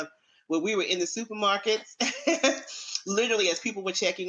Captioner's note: laughs